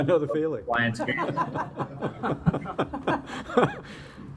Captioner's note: laughs; laughter